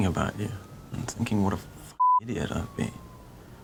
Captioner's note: beeping